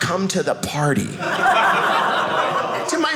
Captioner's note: audience laughing